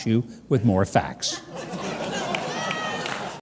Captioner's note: audience laughing